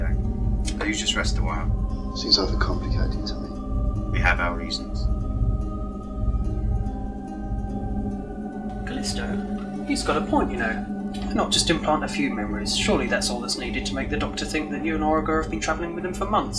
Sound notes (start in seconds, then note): none